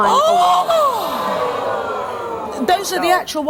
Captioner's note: audience gasps